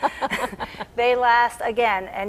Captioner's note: laughing